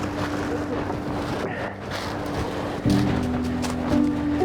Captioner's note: twigs rustling; grass crunching; soft music